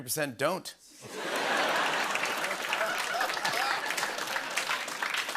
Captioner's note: laughter, applause